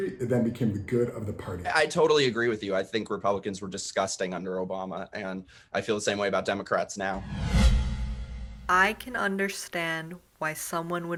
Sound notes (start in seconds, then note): 7.1 air whooshing